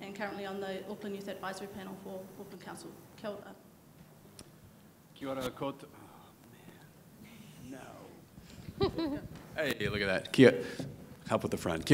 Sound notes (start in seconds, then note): 5.1 speaking in foreign language; 8.6 chuckling